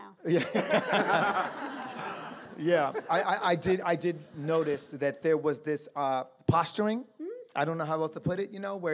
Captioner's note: laughter